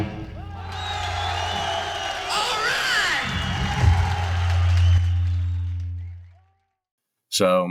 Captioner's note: cheering